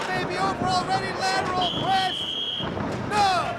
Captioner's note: whistling